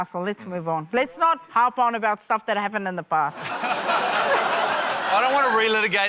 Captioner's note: laughter